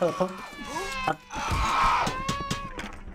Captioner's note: screaming